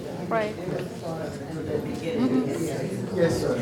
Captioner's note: group chatters